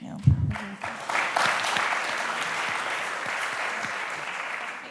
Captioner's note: applause